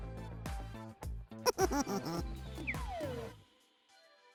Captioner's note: mischievous laughter